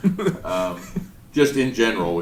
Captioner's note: chuckling